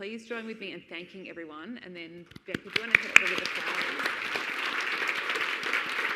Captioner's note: audience applauding